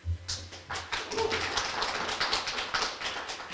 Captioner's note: clapping